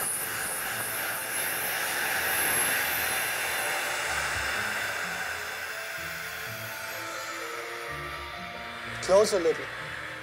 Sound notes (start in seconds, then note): 3.5 steam noise